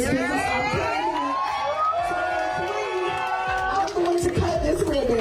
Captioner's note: overlapping cheers and applause